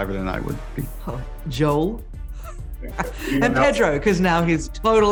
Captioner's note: laughs